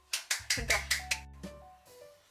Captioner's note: oppa claps